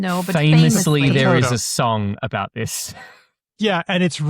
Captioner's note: chuckles